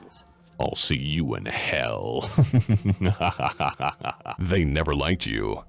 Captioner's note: laughing